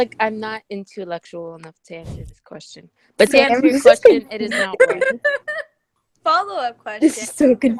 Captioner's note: laughter